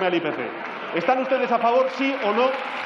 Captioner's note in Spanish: Aplausos